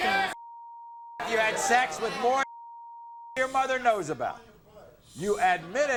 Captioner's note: beeps; beep